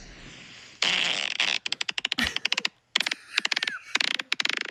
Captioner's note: recording farts; laughs